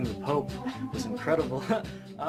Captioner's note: laughs